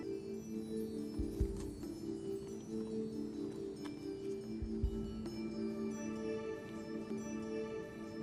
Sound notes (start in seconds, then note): 1.3 whispering